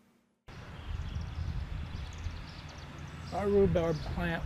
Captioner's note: birds chirping